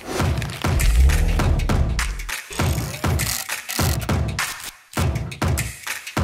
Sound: paper crumpling

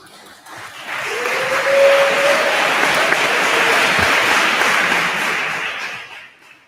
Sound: attendees applauding; attendee cheers

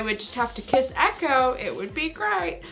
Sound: cork popping

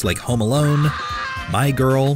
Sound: screams

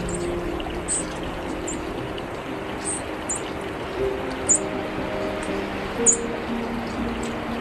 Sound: sound of animals chirping

